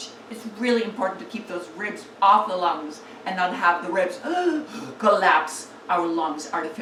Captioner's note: sighs